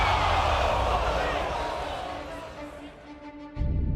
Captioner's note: crowd cheering